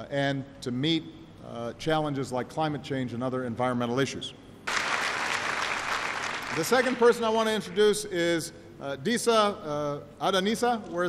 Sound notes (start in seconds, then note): 4.6 applause